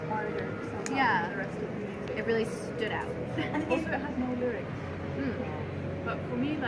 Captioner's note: murmurs of agreement